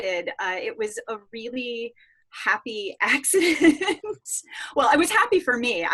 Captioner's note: laughing